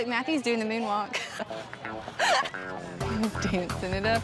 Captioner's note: laughing